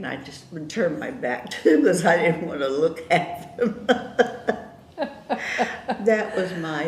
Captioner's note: laughter